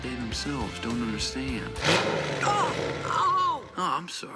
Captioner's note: revving